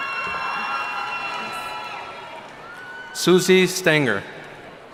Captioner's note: cheering